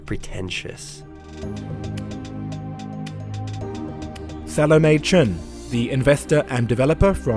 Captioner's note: voiceover